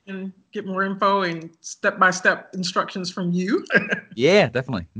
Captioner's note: laughs